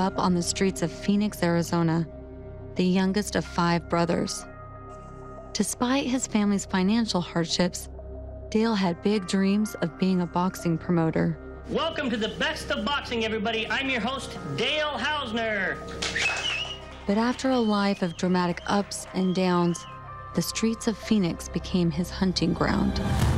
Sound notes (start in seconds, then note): 16.0 cheering